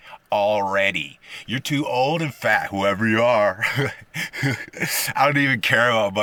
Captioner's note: haha